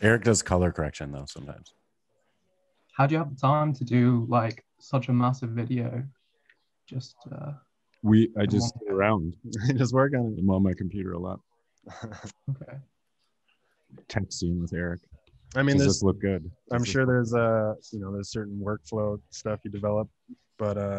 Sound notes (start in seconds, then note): 0.0 laughing; 8.2 laughs